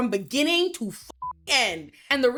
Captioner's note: beep